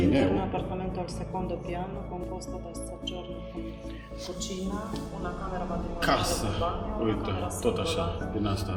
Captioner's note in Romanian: vorbind italiană